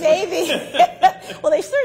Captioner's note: laughter